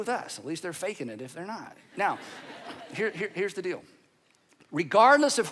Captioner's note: audience laughing